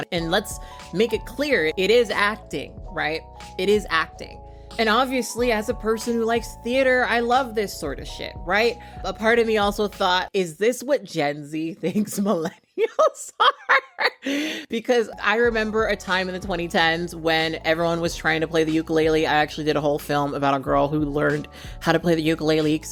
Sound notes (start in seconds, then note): 13.3 laughs